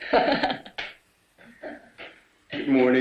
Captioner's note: Gail laughs